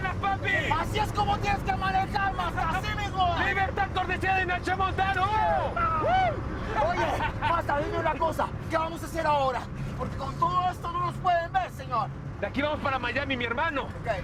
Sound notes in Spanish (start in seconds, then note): 6.8 Risas